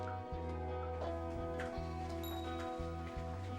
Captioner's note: sound from computer of getting text messages